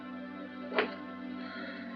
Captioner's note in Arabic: الباب يفتح